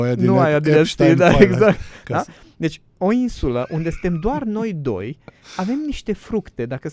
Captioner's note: laughter